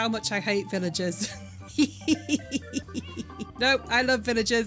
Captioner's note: laughing